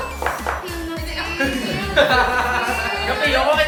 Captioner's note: laughing